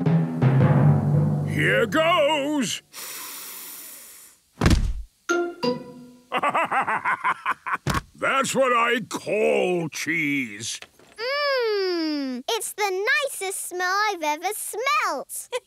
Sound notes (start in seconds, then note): 0.0 dramatic drumming music; 3.7 sniffs; 6.3 bursting laughter